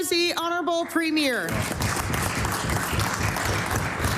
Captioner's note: applause